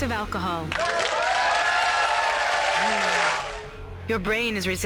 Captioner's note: audience cheers